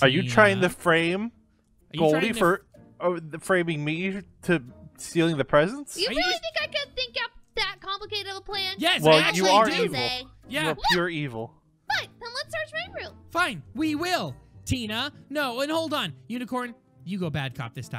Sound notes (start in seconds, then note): 9.0 Goldie and Unicorn exclaim in agreement